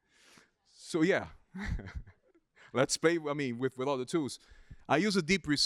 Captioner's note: laughs